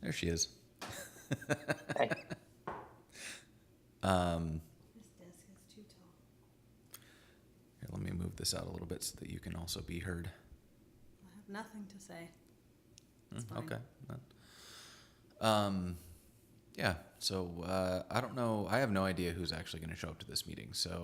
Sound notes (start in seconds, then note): 1.0 laughs